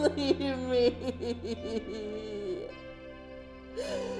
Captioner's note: Pamela sobs